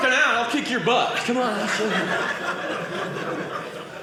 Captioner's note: audience laughing